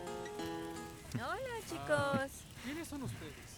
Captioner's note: Amigo de Mario ríe